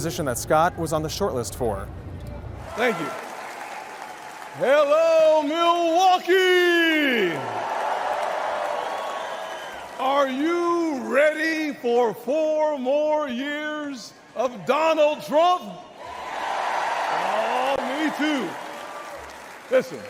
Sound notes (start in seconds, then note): 2.6 applause; 7.9 crowd cheers; 15.6 crowd cheers